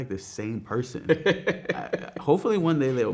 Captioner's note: man laughing